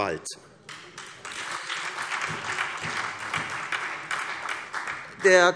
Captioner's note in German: Beifall SPD